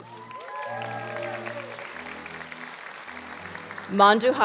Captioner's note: applause